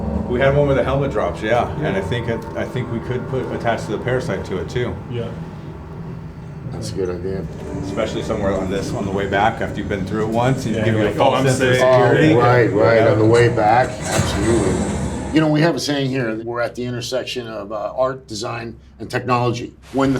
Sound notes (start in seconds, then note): 11.3 overlapping chatter